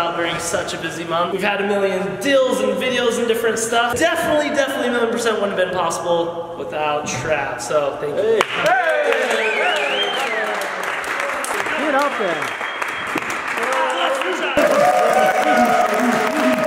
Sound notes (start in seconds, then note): 8.5 clapping; 14.0 clapping